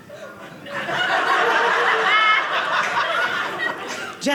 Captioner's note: audience laughing